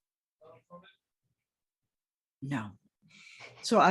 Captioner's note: speaking faintly